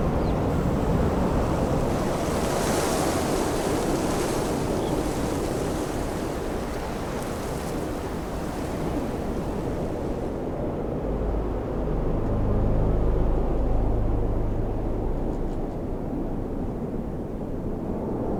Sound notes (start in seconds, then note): 2.0 leaves rustle; 2.7 strong wind blows; 10.9 dark music continues